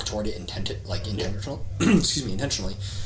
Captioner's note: coughs